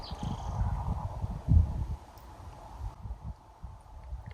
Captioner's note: birds tweeting